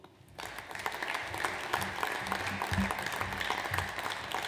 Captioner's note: audience applauds